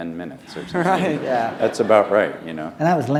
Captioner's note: laughter